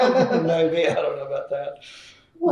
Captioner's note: laughter